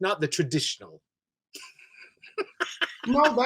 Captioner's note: he laughs